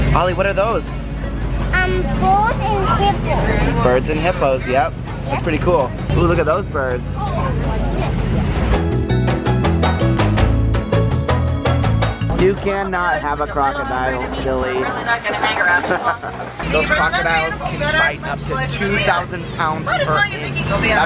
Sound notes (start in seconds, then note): 14.8 laughs